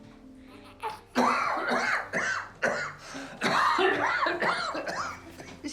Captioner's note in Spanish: tosiendo